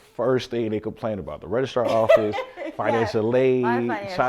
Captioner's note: laughs